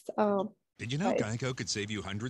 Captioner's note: voiceover